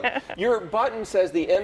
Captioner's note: laughs